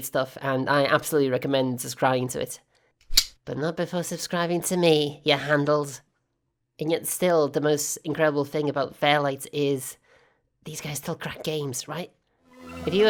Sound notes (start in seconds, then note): 3.1 switchblade opens